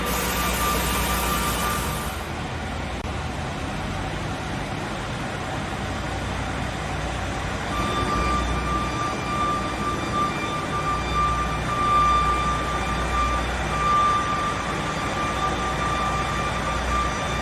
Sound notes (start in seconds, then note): 0.0 air brakes blowing; 8.1 alarms wailing